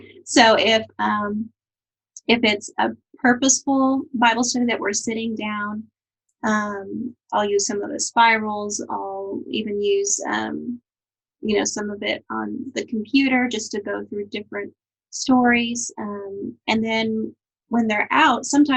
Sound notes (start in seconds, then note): none